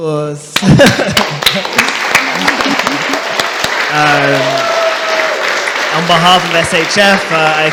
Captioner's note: applause